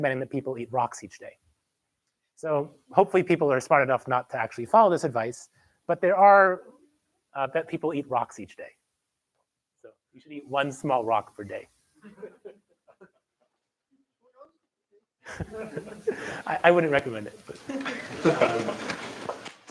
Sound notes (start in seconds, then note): 12.0 laughter; 15.2 laughter; 17.6 laughter